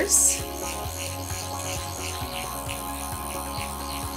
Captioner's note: machine vibrating